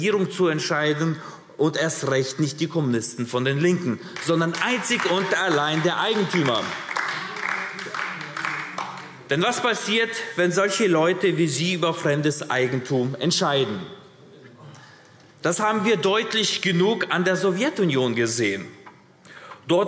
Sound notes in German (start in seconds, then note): 6.9 Beifall AfD